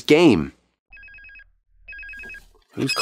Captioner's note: phone ringing